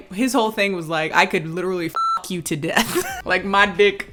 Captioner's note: beep